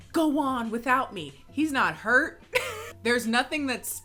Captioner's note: laughs